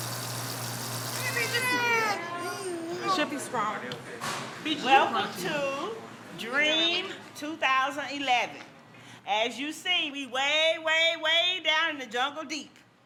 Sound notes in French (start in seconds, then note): 1.6 enfant qui pleure